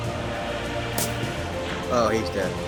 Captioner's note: gunshot